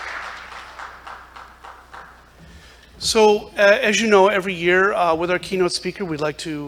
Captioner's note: applause